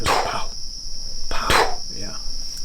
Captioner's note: blows air